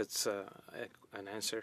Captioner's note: speaking French